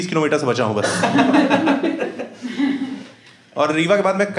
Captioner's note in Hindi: हँसना